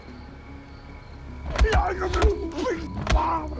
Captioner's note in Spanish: Golpes